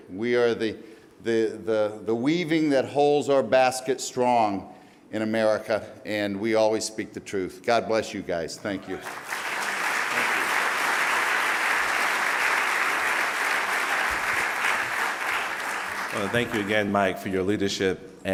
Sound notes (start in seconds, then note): 8.9 applause